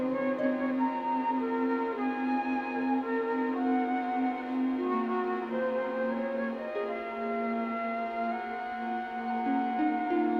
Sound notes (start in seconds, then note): none